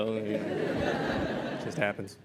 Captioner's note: laughter